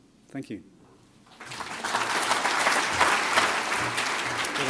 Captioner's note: applauding